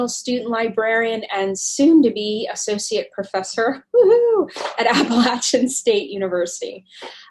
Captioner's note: woohoo!